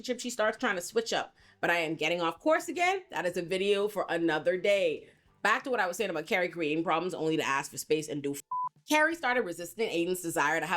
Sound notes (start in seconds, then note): 8.4 beep